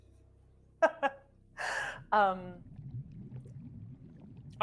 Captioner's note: laughing